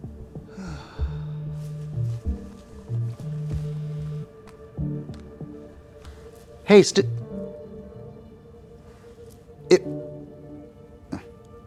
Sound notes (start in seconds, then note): 0.5 Wags sighs; 0.5 cellphone vibrates